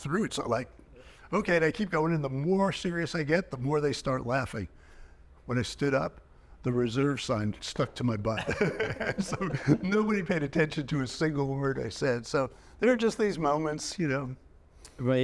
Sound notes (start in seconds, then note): 8.3 chuckling